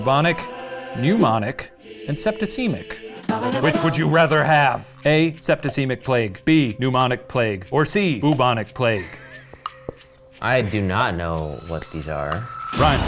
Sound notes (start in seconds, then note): 2.9 exciting music; 9.1 laughs